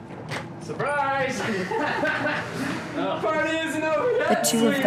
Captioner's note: laughing; more laughing